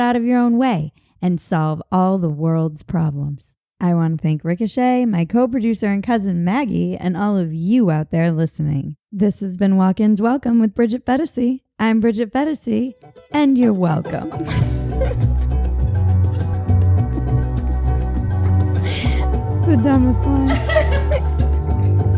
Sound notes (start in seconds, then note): 14.2 laughing; 17.2 upbeat music